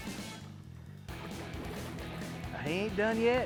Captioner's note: water splashing